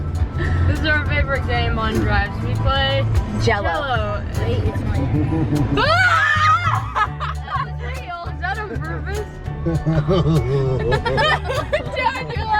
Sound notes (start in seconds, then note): 5.8 kids exclaim; 9.6 laughs